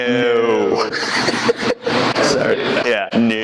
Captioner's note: laughing